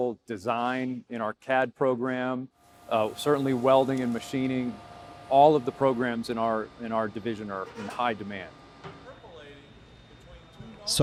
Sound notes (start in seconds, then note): 2.6 sparks crackling; 3.8 machinery humming; 6.2 object squeaking